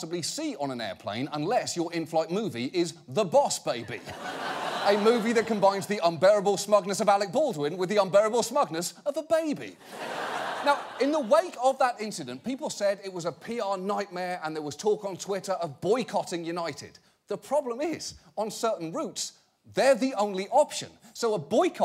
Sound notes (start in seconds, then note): 9.8 audience laughing